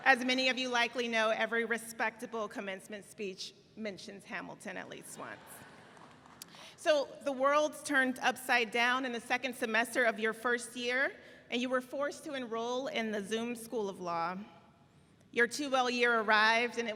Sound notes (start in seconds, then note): 5.4 audience laughs